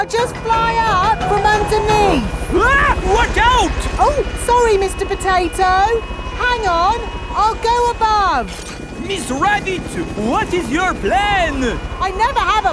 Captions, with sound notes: I'll just fly up from underneath! (SCREAMS) Watch out! Oh! Sorry, Mr. Potato... Hang on, I'll go above! Miss Rabbit, what is your plan?